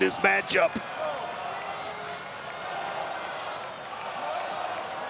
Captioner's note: audience cheering